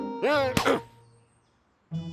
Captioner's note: grunts